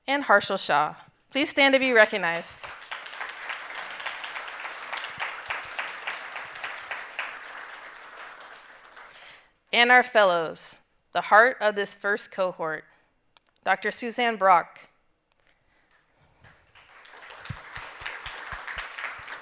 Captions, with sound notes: and Harshal Shah. Please stand to be recognized. (audience applauding) And our fellows, the heart of this first cohort. Dr. Susanne Brock. (audience applauding)